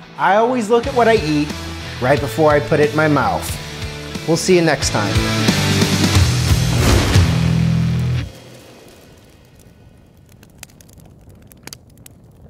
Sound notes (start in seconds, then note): 5.4 heavy rock music; 9.1 fire crackling